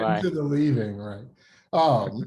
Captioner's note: laughs